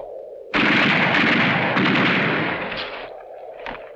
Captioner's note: guns firing